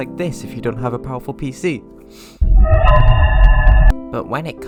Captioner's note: fnaf sound